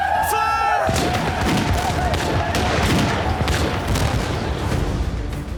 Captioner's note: gunfire